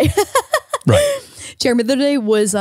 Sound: laughing

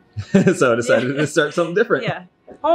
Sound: laughing

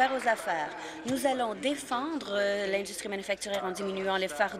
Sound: applause

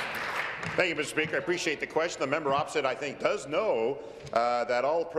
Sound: applause

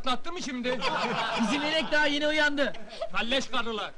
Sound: laughing

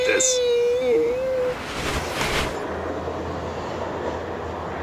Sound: silly sound effect

